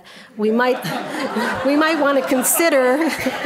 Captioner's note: audience laughing